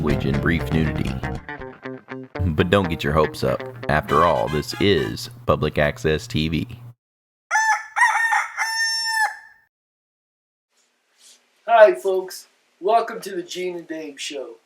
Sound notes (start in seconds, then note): 7.5 rooster Crowing